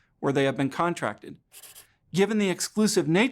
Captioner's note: pencil scratches